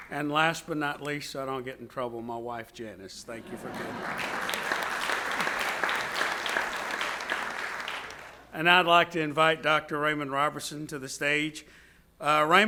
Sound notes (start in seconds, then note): 3.5 audience cheers; 3.5 audience applauds